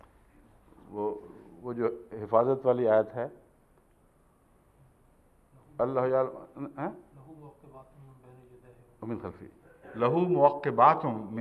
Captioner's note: Arabic